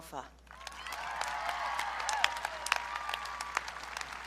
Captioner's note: audience cheering